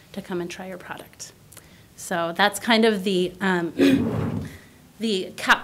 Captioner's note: clears throat